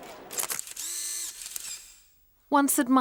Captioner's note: camera clicks